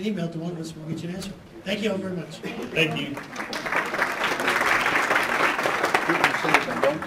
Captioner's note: applause